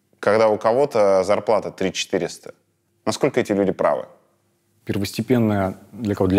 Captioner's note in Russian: none